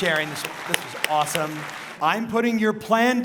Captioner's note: audience claps